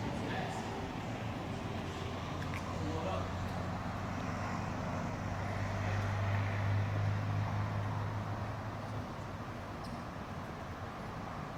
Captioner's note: engine noise